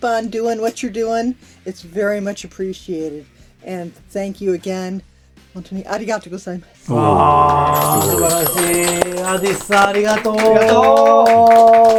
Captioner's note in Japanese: 拍手👏